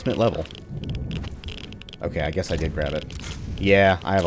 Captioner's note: geiger Counter clicking